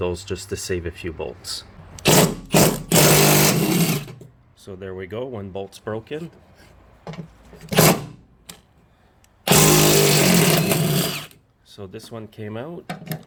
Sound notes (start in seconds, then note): 2.0 drilling sounds; 9.4 drilling sounds